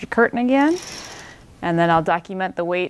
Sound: curtain whooshing

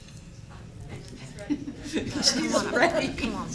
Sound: laughter

